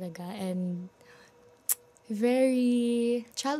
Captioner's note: none